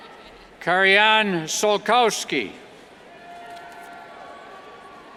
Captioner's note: cheers